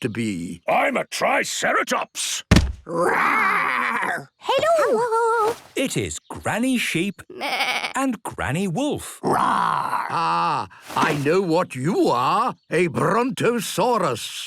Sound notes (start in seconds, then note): 2.5 thudding; 7.3 bleating; 9.0 roaring